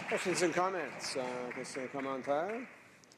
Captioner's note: some Applause